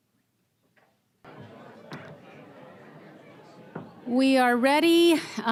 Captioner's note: general chatter